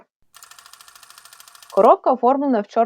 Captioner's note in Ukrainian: звук прокручування плівки